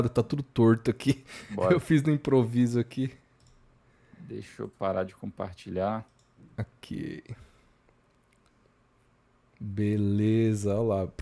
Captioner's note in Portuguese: risadas